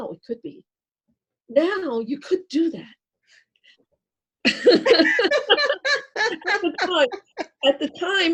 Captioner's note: laughter